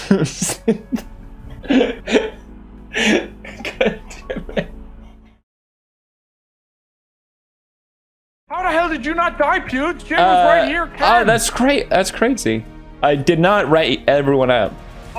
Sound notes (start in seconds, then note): 3.0 laugh